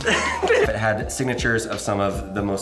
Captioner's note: laughing off camera